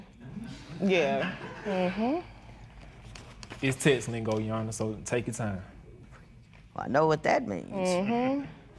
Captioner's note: laughter